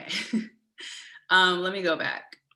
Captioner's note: giggling